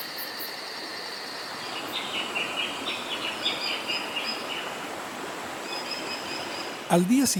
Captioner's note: water running, ambient sounds